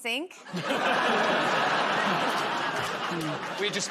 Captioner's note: laughter